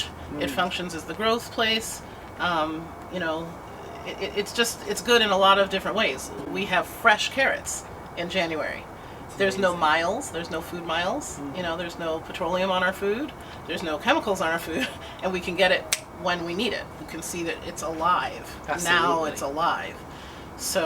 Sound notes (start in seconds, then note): 15.9 snaps